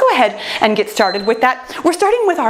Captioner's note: timer beeps